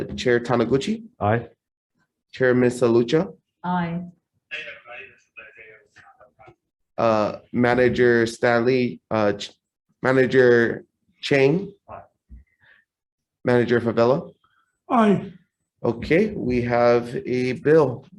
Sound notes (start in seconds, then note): 5.0 indistinct conversation